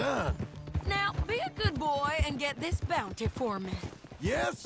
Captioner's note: mocking